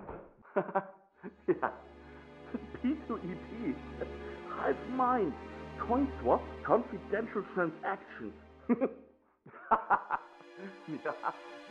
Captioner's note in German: lacht